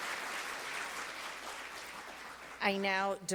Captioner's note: applause